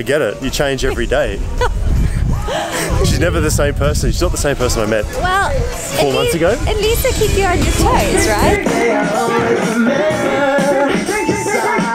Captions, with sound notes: - I get it, you change every day. (laughing) She's never the same person. She's not the same person I met four months ago. - At least I keep you on your toes, right? (lively music)